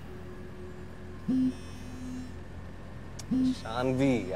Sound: cell phone vibrating

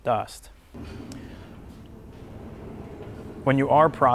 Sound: saw blade rolling

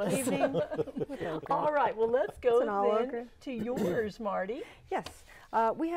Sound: laughing

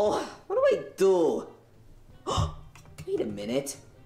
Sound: gasps

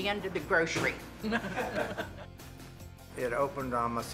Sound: light laughter

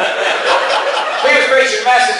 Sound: class laughs

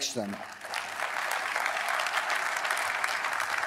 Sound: applause

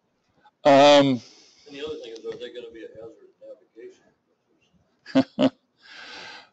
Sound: chuckle

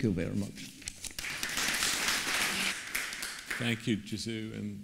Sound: claps

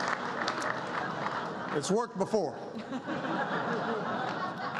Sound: laughter and applause

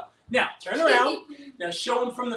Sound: giggles

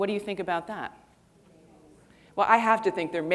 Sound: people mumbling

